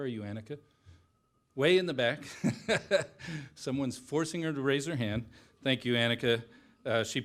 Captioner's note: laughter